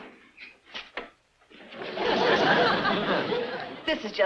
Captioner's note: audience laughs